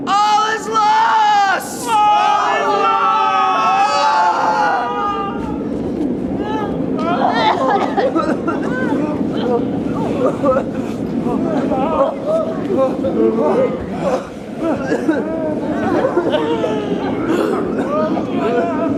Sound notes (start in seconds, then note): 7.5 coughing and spluttering; 17.1 wind blowing